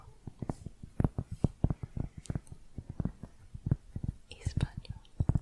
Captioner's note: tapping on cork